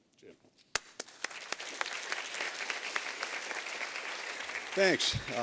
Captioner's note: applause